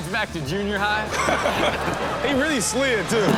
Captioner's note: crowd laughs